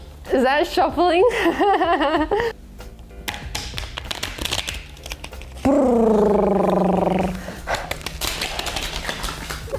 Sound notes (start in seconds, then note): 1.2 laughs; 3.2 cards tapping loudly; 7.7 cards clattering